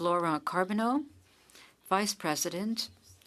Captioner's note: speaking French